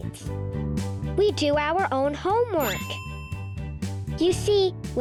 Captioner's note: bell dinging